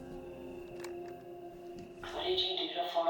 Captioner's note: tape whirring; recorder clicks